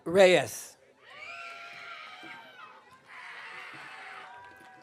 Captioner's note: audience cheering